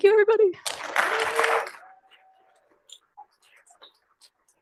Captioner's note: applause